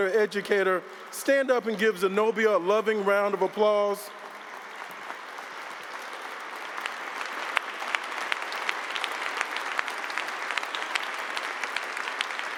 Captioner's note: applause